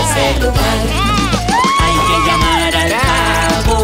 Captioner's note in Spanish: Grito